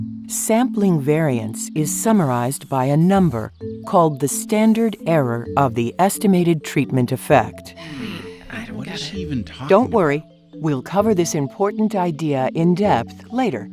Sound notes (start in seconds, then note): 7.8 students muttering